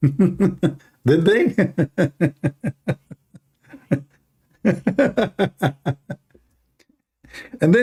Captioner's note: Ketawa